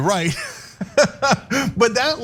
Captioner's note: laugh